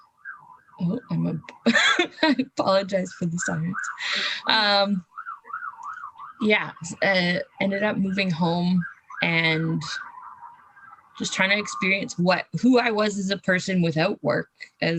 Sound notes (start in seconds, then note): 1.5 laughs; 4.0 police siren wailing